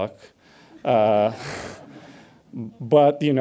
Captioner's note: audience laughs